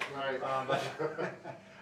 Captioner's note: laughing